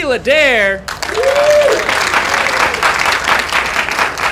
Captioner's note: applause